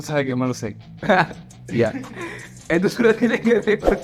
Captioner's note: laughs